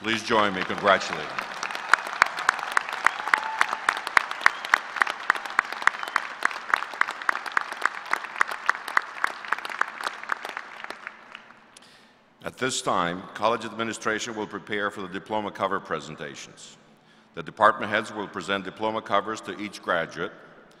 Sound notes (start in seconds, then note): 9.6 applause